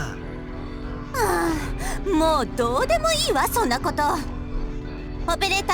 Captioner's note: exasperated sigh